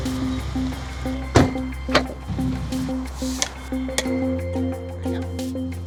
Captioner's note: car door thumping